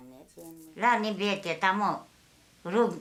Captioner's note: speaking Bhutanese